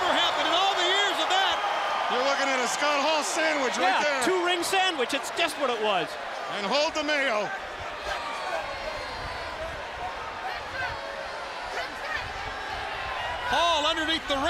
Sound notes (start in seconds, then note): 8.9 crowd chatter